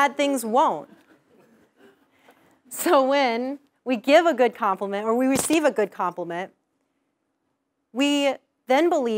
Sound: laugh

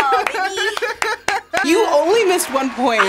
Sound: React laughs

